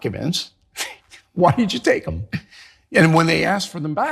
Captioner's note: laugh